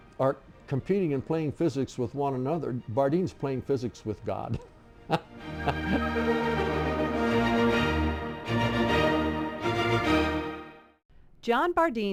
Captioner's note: laughing